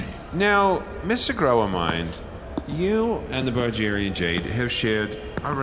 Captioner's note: pacing around thoughtfully